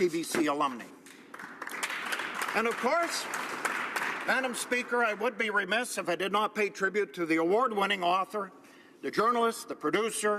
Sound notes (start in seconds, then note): 5.8 applause